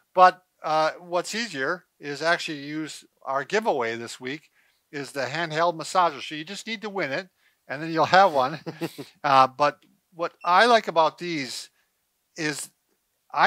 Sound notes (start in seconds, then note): 7.8 laughs